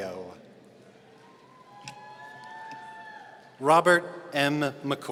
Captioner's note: audience cheering